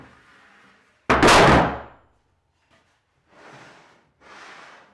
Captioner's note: wood thudding; wood banging